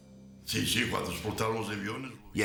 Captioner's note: non-english speech